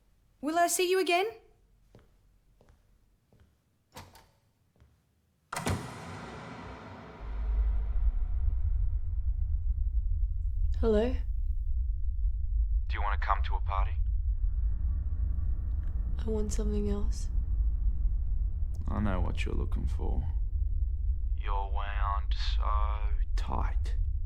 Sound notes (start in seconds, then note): 3.8 door opened